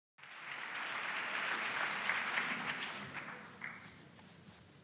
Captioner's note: applause